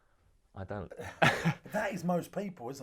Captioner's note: laughs